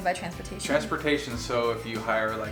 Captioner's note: male Voice